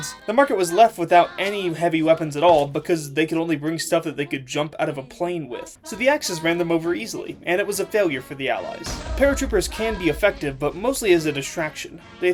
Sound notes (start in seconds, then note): none